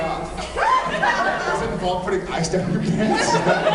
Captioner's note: laughing; laughs